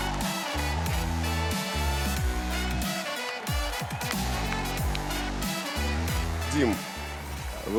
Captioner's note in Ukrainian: оплески